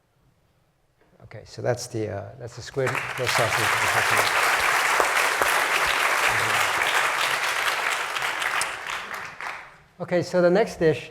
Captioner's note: applause